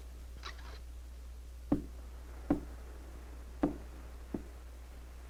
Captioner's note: faint tapping on door